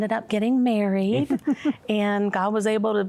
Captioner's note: giggling